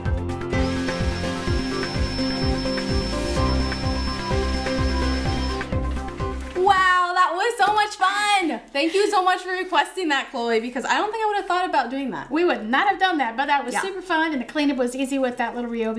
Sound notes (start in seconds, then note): 0.0 upbeat music; 0.5 vacuuming